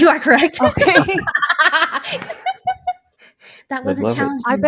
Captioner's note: all laughs